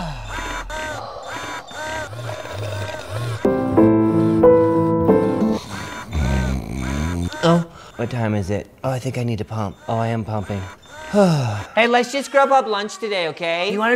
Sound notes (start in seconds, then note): 0.2 device pumping; 3.4 piano playing; 5.6 snoring